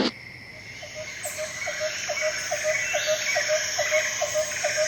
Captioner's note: birds chirping